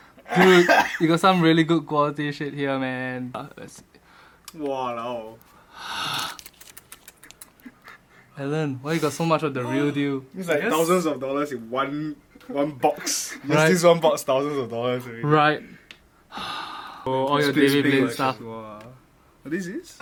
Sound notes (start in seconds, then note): 2.6 sigh